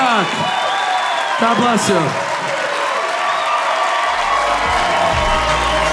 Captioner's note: audience cheering; upbeat music